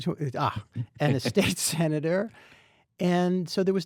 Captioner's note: laughs